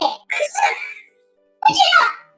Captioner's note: laughs